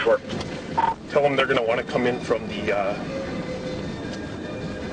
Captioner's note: voiceover